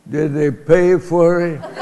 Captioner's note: laughter